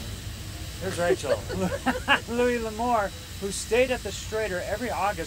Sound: laughs

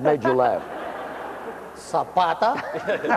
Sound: laughter

